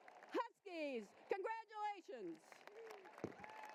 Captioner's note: applause